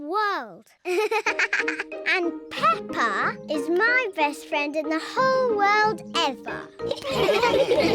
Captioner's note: giggling; all laugh